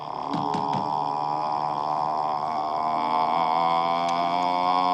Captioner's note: knocking on the door